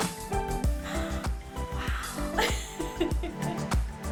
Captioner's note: laughs